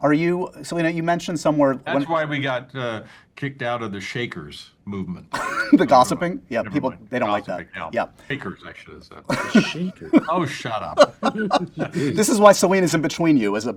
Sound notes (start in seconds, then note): 10.8 laughter